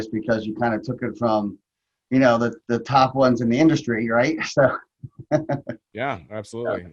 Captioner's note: laughs